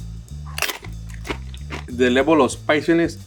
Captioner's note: gentle guitar music; tacos crackling